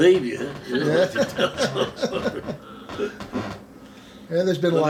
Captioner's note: both laughing